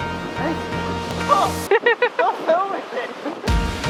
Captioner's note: laughter